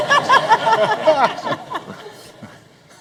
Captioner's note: laughter